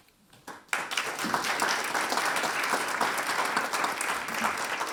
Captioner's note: audience applauding